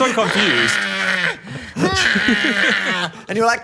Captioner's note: Phil laughs; Dan groaning